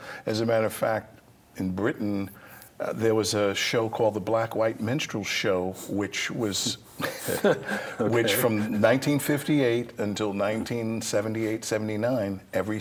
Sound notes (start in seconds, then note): 7.0 laughs